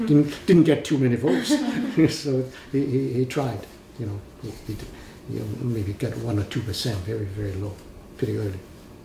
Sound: all laugh

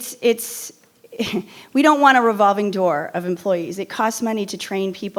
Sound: chuckles

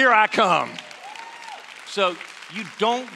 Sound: applause

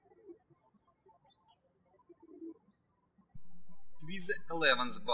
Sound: birds chirping

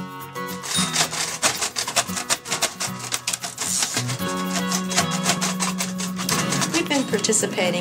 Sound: braillers typing

